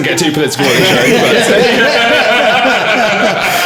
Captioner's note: laughing